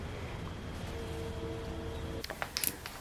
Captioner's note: train whistle